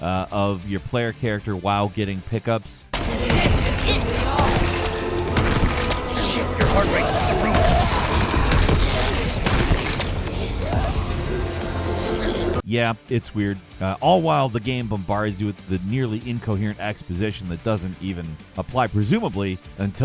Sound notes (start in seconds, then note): 2.9 dramatic music; 2.9 gun blasting